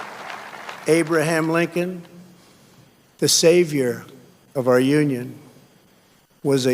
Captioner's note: cheers and applause